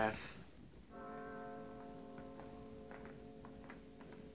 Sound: bell Tolling

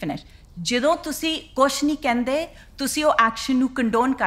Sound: continues in Punjabi

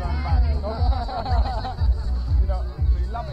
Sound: all laugh

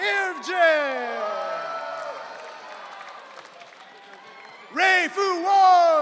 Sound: audience cheering

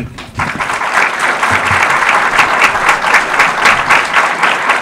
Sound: audience applause

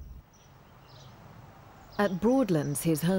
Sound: birds singing

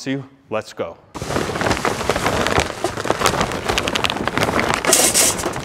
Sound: paper bag crumpling; metal clanging

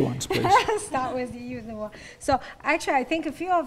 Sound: laughing

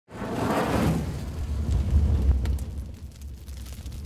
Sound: fire crackling

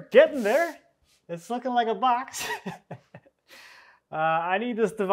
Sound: chuckling

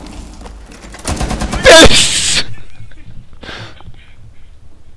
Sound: laughing

